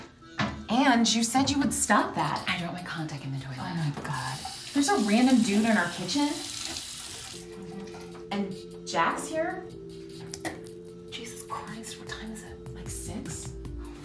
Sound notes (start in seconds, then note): 3.6 running water; 6.8 water stops; 10.7 spits